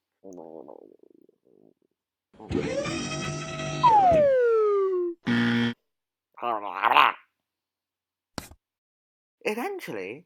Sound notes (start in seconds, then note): 2.4 car Engine Noise; 3.6 comical Falling Sound Effect; 5.2 WRONG Buzzer; 6.4 Martian Grunts